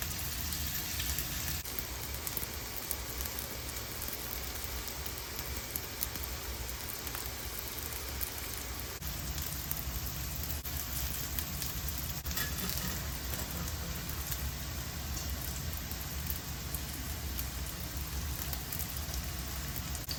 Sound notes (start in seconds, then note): 1.6 sizzle asmr